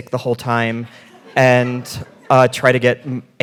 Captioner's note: audience laughing